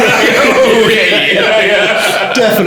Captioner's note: laughing